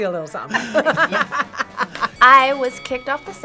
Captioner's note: both laugh